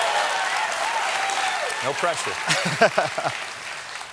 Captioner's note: cheers and applause; laughter